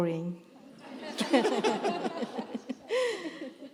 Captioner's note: laughter